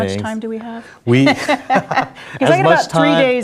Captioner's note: laughing